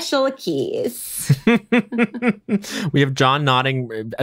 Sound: laughs

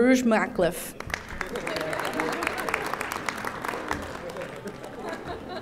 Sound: audience applauding

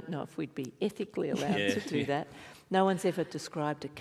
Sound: laughing

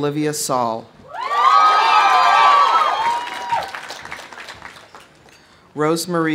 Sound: audience cheering; audience applauding

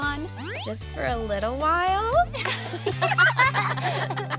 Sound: all laugh

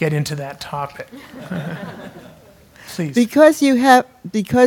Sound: laugh

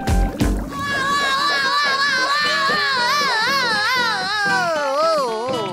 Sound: screaming

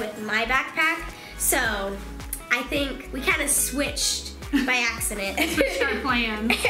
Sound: laughing

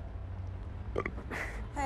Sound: belching

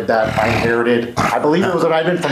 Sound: laughing

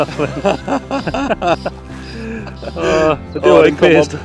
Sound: laughter

